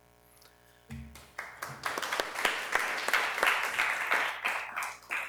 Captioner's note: applause